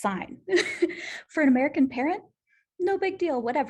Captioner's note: laughter